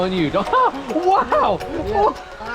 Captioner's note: yells quickly